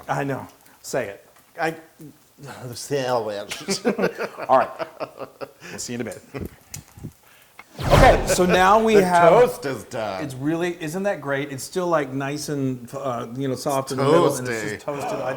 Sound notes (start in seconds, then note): 4.1 laugh